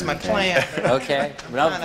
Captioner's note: laughter